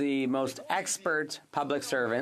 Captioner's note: speaking French